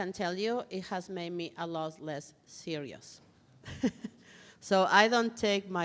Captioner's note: chuckles